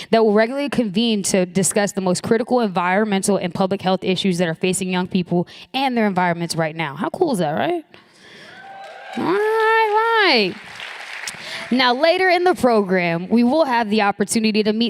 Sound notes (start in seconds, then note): 8.4 applause